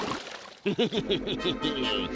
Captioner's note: chuckles